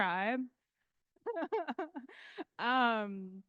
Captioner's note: laughing